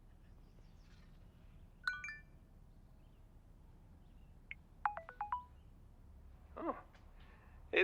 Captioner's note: phone Beeps